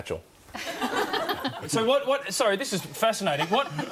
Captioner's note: audience laughs